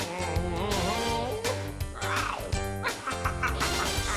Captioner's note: צווחות